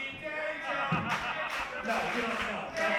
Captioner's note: crowd; clapping